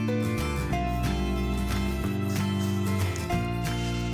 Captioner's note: pencil scrapes; paper crinkles